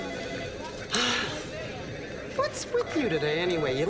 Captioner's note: Nora sighs